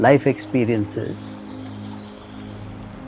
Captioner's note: birds singing; water gurgling